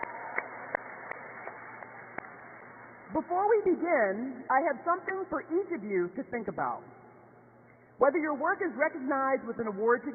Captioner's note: cheers and applause